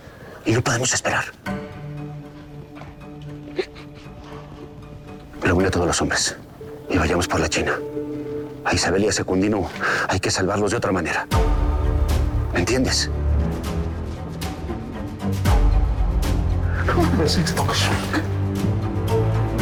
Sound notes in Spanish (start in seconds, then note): 3.4 Sollozos